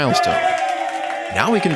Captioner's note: cheering